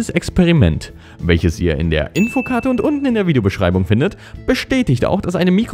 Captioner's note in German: ding